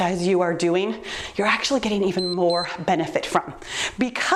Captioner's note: timer beeps